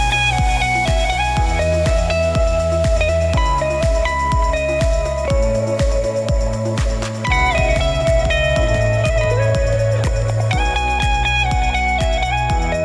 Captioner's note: applause